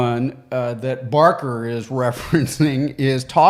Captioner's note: chuckles